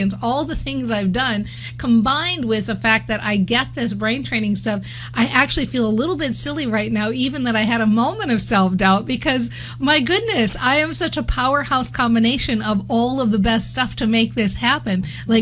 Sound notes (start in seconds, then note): none